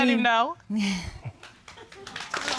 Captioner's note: chuckles